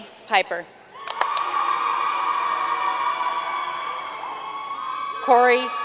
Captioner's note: audience cheering and applauding